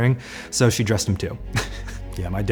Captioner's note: laughs